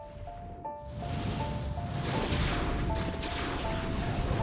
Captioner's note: guns firing